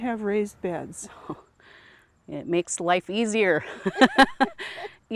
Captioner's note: laughs softly; laughs loudly